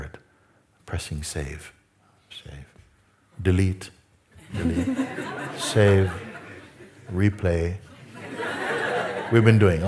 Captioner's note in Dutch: gelach